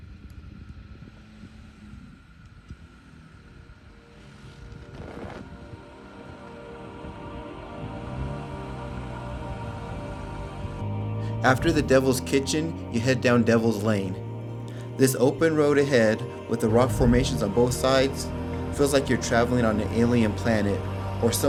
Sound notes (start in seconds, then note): 0.0 car engine hums; 5.5 serene music